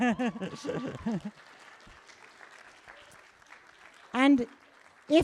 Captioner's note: cheers, applause